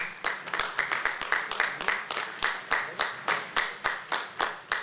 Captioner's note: applause